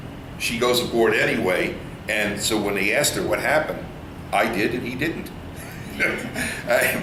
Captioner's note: all laugh